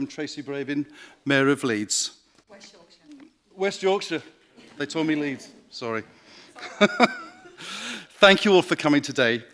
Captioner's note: laughter